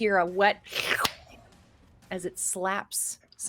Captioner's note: person slurping